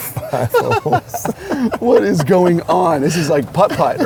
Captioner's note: laughs